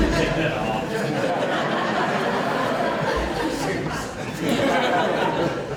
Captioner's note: audience laughing loudly